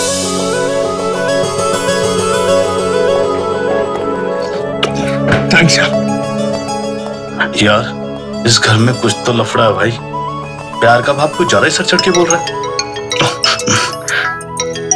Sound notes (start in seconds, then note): 4.8 Kisses; 11.4 Phone rings